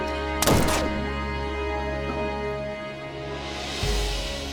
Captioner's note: gunshot banging